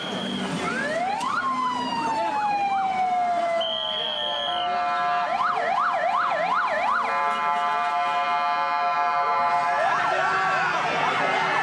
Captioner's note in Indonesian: sirene meraung-raung